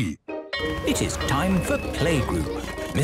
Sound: school bell ringing

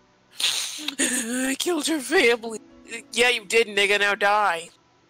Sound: sniff

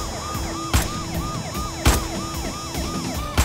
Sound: bullets firing; siren wailing

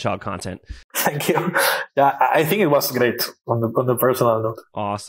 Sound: laughs

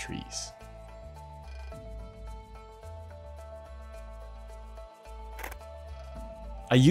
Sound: soft music; camera shutters

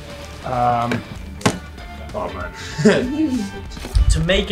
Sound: laughs

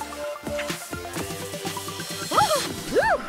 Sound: yelp

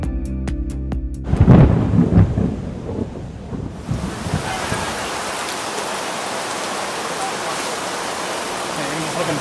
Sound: thunder and rain

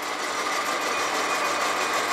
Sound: rhythmic whirring

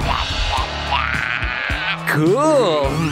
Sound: singing; groans

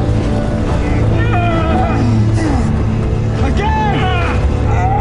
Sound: both grunting; both grunting

